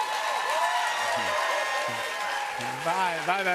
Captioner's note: cheers and applause